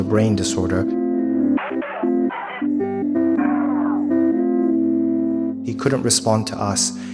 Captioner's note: distorted audio screeching